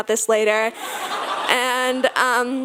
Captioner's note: audience laughing